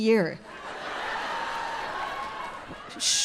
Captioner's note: crowd laughing